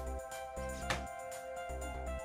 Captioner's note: clack